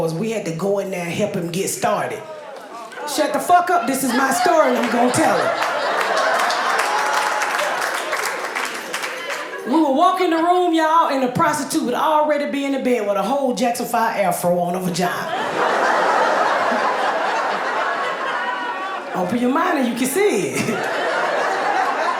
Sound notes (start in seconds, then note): 2.8 audience groans; 6.3 audience laughing and applauding; 15.0 audience laughing; 20.3 chuckles